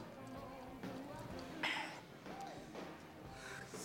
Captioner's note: exhales